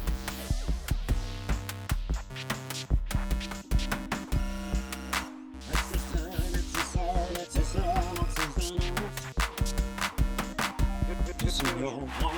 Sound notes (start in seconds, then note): 7.6 distorted voice